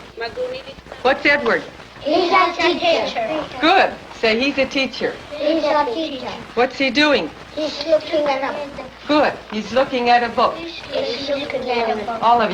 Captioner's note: students respond to teacher in English language